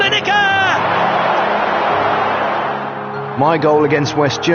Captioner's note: crowd cheering